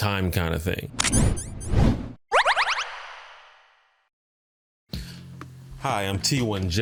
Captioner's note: weird voiceover